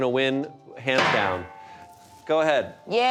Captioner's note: chair clanging